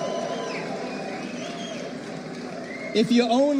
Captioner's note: cheers